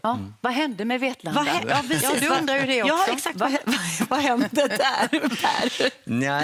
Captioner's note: laughter